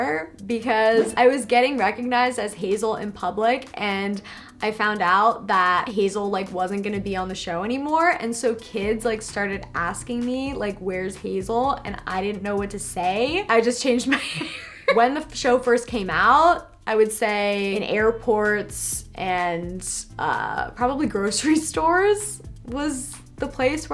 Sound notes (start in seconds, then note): 14.5 laughs